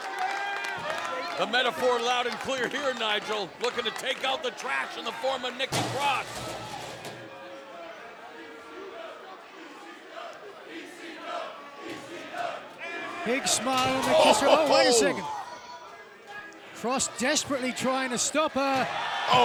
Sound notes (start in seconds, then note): 5.6 trashcan bangs; 10.6 crowd chants indistinctly